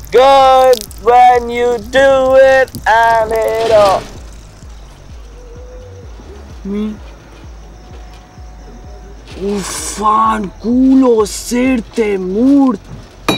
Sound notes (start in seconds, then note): 3.6 noise inside the car